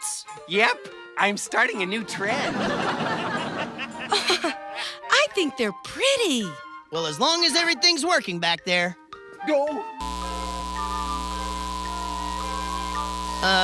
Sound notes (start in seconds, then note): 2.3 audience laughs; 5.4 giggles